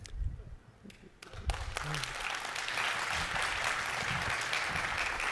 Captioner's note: audience clapping